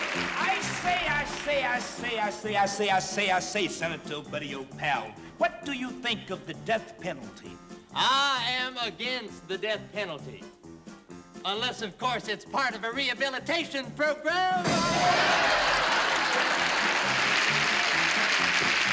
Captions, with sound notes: I say, I say, I say, I say, I say, Senator, old buddy old pal, what do you think of the death penalty? I am against the death penalty. Unless, of course, it's part of a rehabilitation program! [ Laughter ]